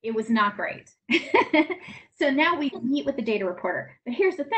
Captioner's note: laughs